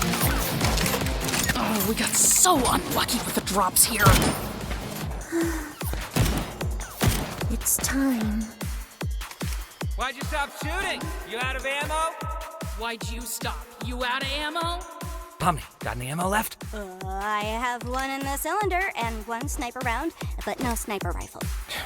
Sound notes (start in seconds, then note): 5.2 gasps softly